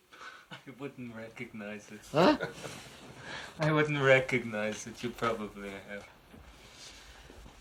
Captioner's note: laughs